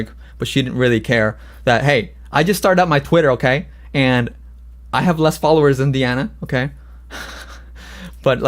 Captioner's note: laughs